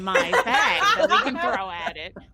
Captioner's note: all laughing